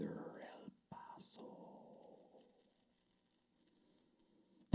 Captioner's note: whispering